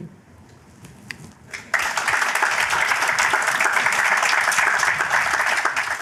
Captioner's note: applause